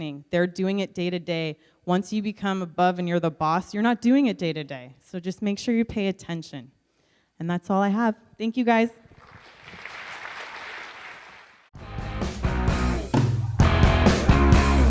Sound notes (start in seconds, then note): 9.1 audience Claps; 11.7 outro Music